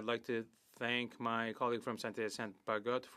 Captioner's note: speaking French